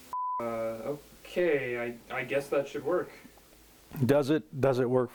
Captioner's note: beep